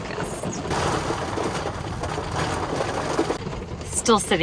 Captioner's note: rain pattering